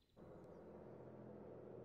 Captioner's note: noise of a bus